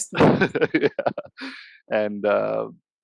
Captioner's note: laughs